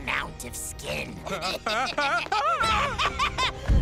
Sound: screaming, Nate laughing; laughing

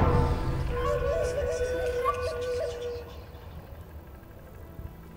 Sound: whispered Celtic voices

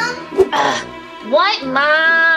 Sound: Romeo grunting

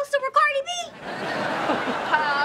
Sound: chuckles

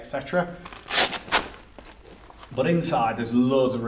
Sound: velcro opening

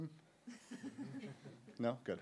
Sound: laughter

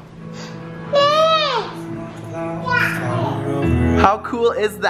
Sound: gasp

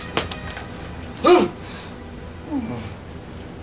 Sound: grunting

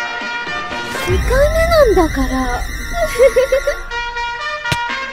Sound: something intimidating in Japanese

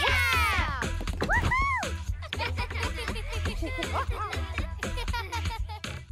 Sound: laughter

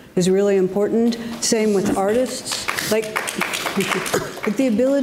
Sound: audience laughs

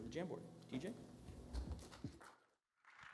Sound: applause

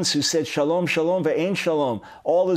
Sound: speaking in Hebrew

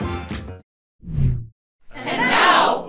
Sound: logo swooshes

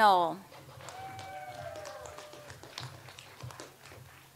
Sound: audience applauds

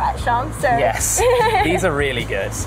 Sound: laughs

